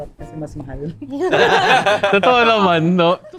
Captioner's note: laughs